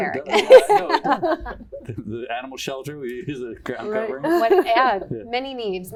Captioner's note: laughter